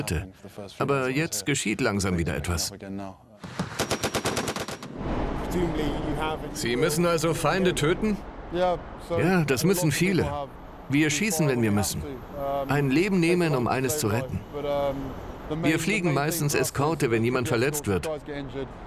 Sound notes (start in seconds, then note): 3.4 gun firing; 5.1 voiceover